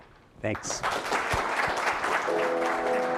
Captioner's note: applause